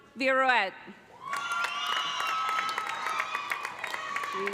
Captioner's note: cheers and applause